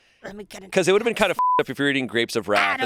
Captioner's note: beep